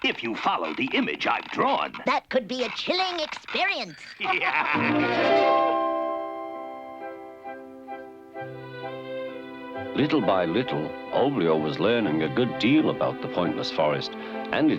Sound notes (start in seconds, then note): 3.9 laughs; 4.8 chiming music; 6.4 light orchestral music